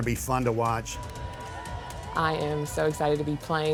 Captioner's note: people cheering